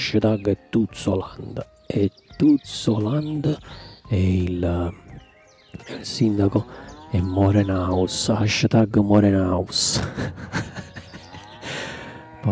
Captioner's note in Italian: Risate